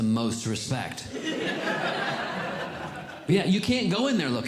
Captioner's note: audience Laughing